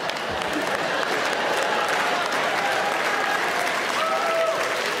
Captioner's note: audience clapping